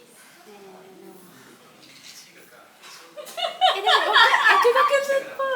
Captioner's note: laugh